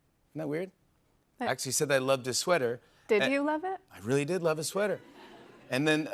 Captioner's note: laughter